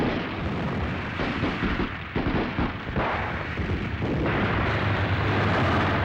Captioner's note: vehicles rumbling; guns firing